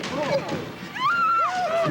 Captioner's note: screams